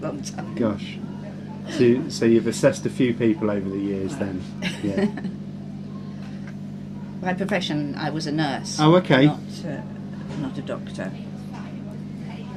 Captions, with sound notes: (laughs) A long time. - Gosh. So you've assessed a few people over the years, then. (laughing) - My profession, I was a nurse. - Oh, okay. - Not a doctor.